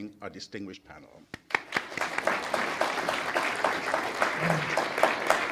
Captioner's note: attendees applauding